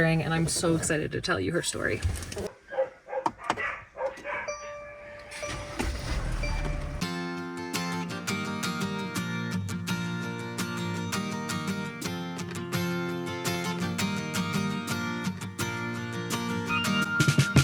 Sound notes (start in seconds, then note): 2.5 dogs barking; 4.2 van beeping; 7.1 gentle acoustic music